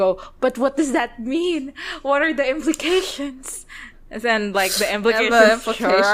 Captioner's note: laughs